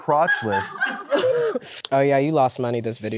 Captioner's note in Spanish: el equipo carcajea